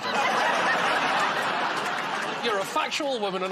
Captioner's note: laughter